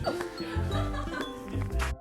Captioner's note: laughing in the background